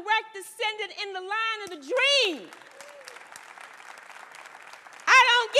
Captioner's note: applause